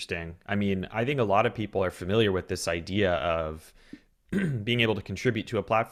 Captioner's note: clears throat